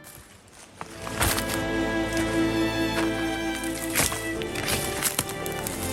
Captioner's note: leaves and branches rustling